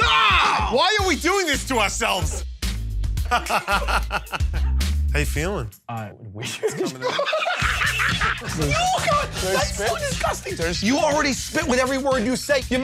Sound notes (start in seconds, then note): 3.2 laughs; 6.4 laughter